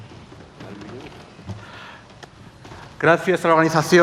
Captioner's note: in Asturian Languague